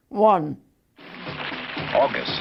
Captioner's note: applause